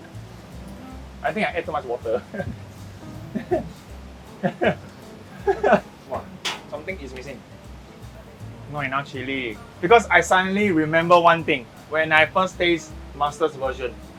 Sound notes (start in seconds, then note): 5.3 nervous laughter part 2; 5.3 nervous laughter part 3